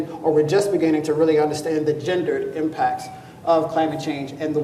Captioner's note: none